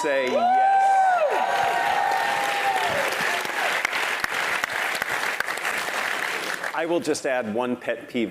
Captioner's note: applause